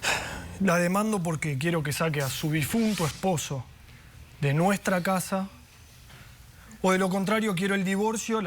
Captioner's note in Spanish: exhala